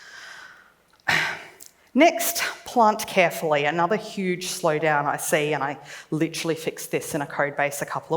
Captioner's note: sighs